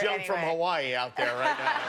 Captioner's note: laughter